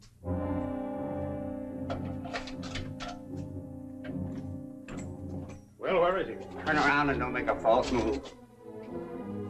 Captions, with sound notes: [ LOCK CLICKS ] Well, where is he? Turn around and don't make a false move.